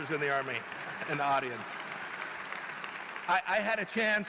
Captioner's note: applause